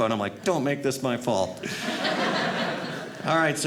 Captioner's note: audience laughing